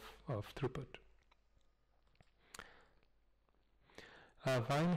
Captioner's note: pause